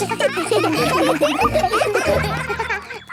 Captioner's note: children laughing